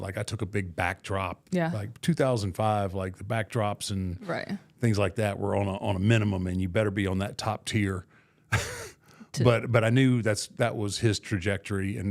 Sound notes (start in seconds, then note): 8.5 laughs